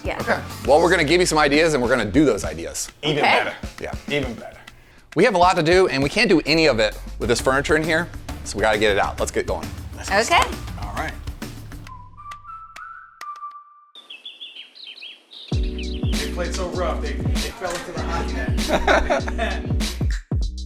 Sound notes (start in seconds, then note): 10.2 clapping; 11.4 whistling music; 13.9 bird chirping; 17.5 laughs; 20.4 upbeat music